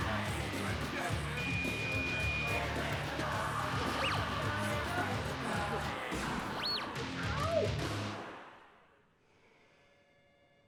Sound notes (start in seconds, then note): 1.3 beeping